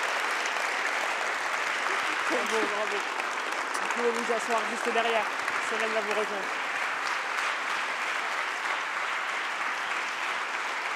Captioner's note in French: le public applaudit